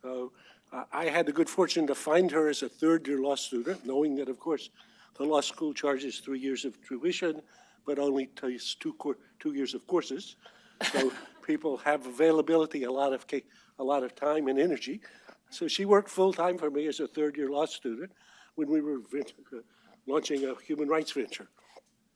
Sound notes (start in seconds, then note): 10.8 laughter